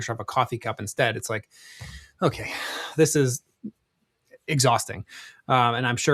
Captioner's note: sighs